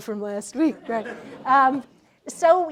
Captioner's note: laughter